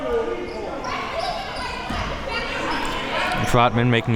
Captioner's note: audience yelling